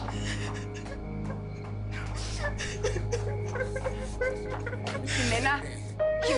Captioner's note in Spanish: Sollozos